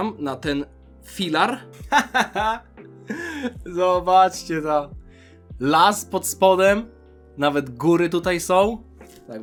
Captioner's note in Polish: śmiech